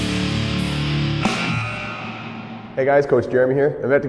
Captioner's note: rock music; hockey buzzer